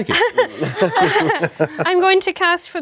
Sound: everyone laughing

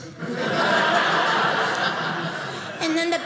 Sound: audience laughing

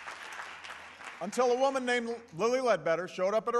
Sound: applause

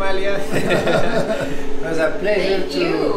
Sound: laughing

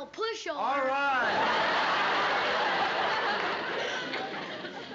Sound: laughter

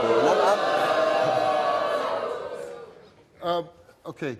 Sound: audience jeers and boos

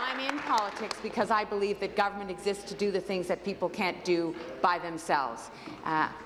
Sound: applause

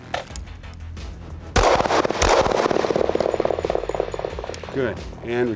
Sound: gun shots

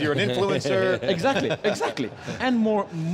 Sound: laughter

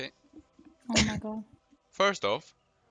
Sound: hah

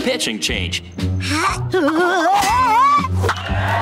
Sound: grunting

